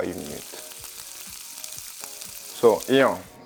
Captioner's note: sizzling sound